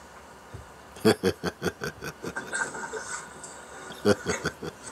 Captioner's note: laughter